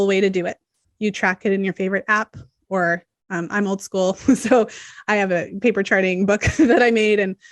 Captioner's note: chuckles